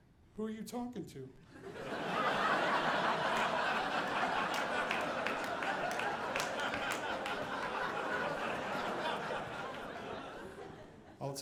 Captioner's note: audience laughing